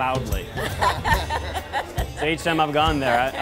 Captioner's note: laughing